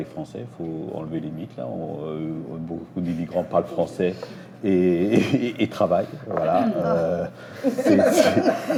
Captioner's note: laughs